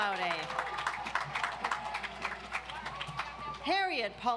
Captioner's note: audience applauds